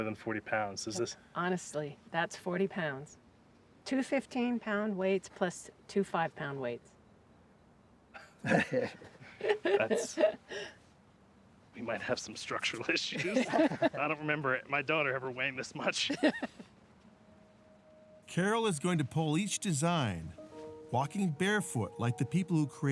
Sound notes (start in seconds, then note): 8.4 chuckling; 15.8 laughter; 16.9 laughs